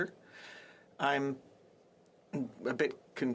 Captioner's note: speaking French